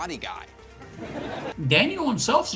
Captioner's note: audience laughter